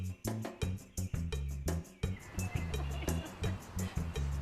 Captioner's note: laughs